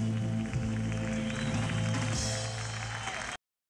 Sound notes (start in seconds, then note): 1.9 cheers and applause